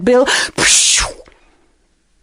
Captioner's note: whooshing noise